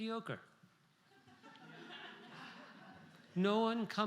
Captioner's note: laughter